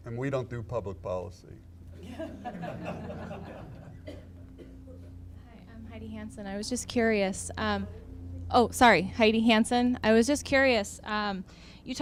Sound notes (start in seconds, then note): 2.0 audience laughing